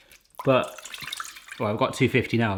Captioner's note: water splashing